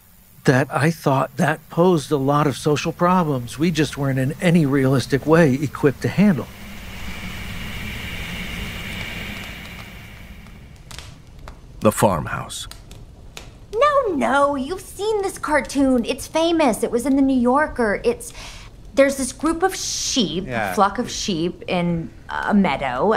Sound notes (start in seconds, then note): 6.9 whoosh static; 9.6 fireplace roaring